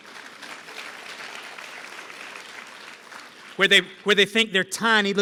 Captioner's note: applause